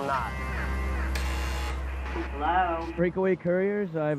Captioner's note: buzzer sounds; woman on intercom